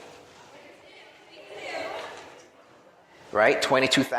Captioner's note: audience chattering